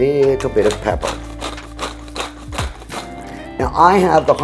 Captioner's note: pepper grinding